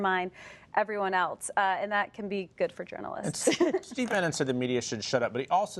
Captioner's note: laughs